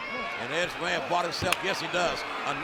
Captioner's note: hands clapping